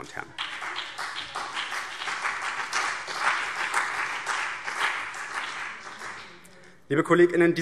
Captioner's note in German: Beifall BÜNDNIS 90/DIE GRÜNEN und CDU